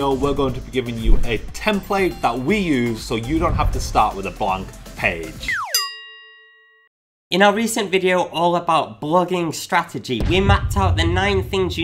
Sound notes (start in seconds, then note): 5.4 slide whistle music; 5.6 bell dings